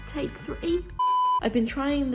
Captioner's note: beep